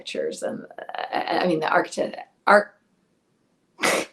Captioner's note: laughs